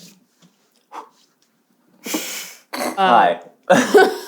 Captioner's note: blows